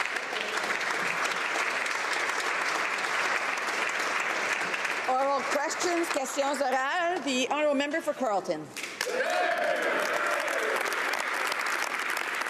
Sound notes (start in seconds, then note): 6.8 applause; 9.6 speaking French; 12.3 some Applause